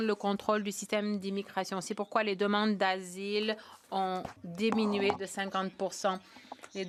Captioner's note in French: voix de l'interprète